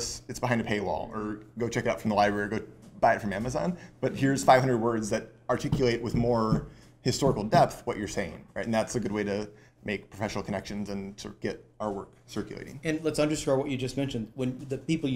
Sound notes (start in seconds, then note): none